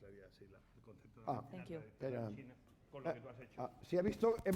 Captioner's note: speaking spanish